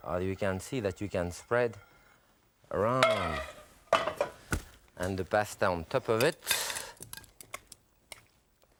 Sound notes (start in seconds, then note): 3.1 utensil clatters; 3.9 casserole clatters